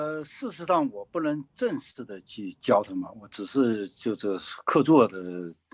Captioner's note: speaking in foreign language